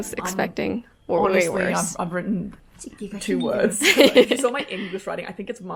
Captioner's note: laughs